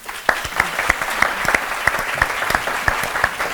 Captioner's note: applause